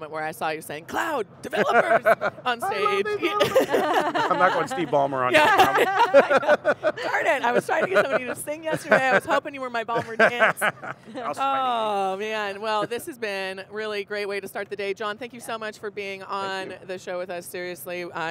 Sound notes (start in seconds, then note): 3.3 laughing; 5.8 all laughing